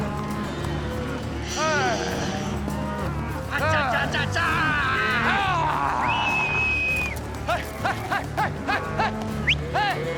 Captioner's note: prompting cattle, whistling